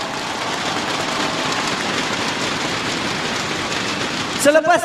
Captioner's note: crowd cheering